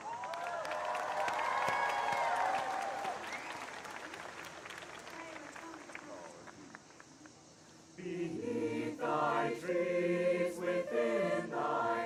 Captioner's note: applause